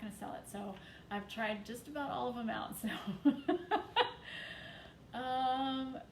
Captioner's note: chuckles